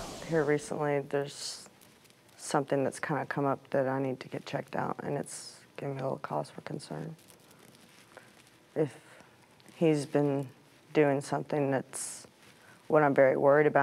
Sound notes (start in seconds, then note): none